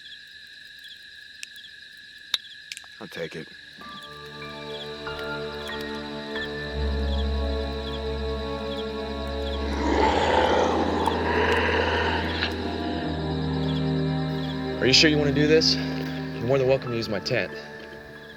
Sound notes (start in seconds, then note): 4.2 ominous Piano Music Plays; 9.5 deep Growling